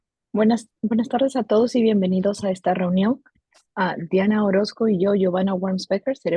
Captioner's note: interpreter speaking in a foreign language